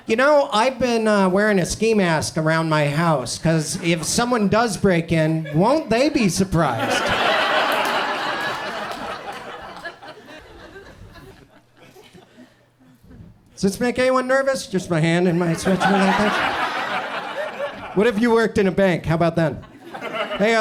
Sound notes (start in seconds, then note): 6.6 audience laughs; 16.9 audience chuckles